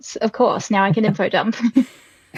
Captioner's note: laughing; laughs